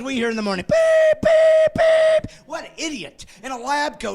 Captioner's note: laughing